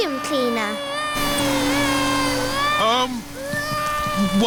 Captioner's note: crying